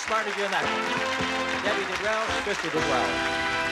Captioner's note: applause